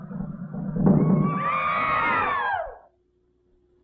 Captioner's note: shouting - drums stop